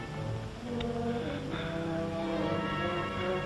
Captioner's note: gasps